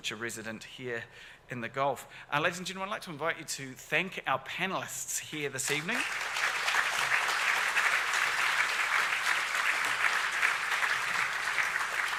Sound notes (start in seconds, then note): 5.7 audience applauds